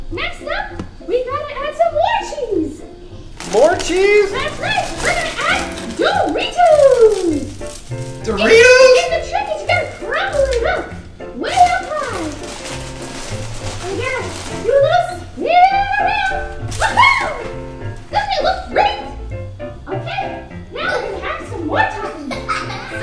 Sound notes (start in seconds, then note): 3.0 voiceover; 6.8 voiceover